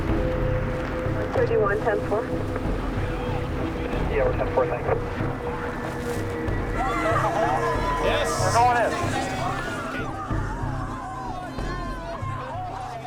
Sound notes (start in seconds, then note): 7.1 people shouting; 10.9 people shouting